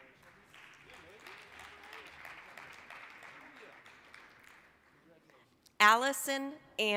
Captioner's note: applause